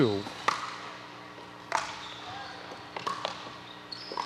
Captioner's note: ball bouncing